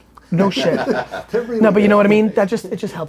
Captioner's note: group laughter